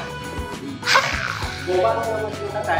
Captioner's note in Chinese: 哈啊啊～